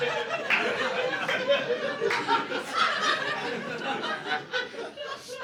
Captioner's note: laughter